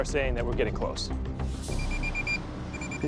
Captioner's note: beeping